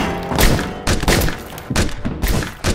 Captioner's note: pistol shots